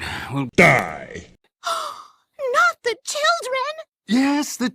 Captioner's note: gasp